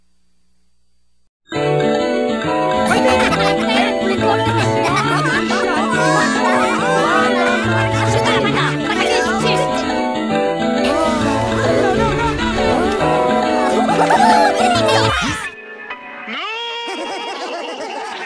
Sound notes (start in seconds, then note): 2.8 Minions Laughing